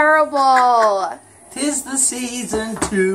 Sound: laughing

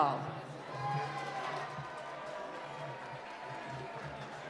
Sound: applause

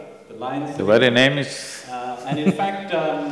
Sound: laughs

